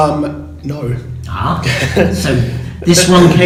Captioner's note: laughs